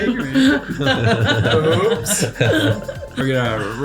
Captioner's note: laughter